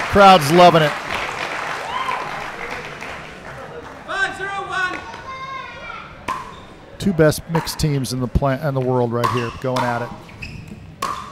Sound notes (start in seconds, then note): 2.1 audience cheering